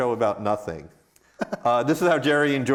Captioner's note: laughs